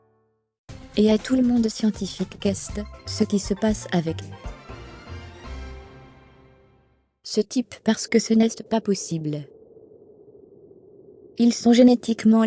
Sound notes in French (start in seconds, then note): 0.8 musique entraînante; 2.0 vent soufflant